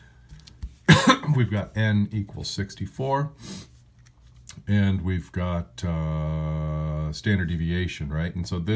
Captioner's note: cough